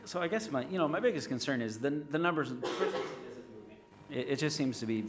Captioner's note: speaks faintly